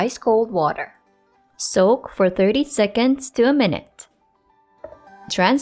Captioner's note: bowl thuds